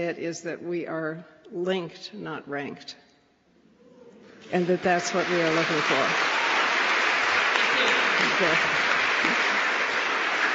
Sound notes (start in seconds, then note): 5.0 applause